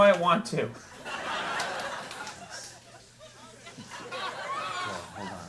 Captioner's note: audience laughing